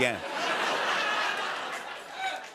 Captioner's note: laughter